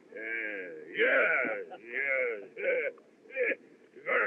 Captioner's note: chuckles